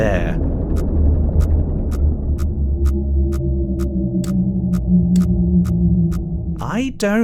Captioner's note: deep monstrous groan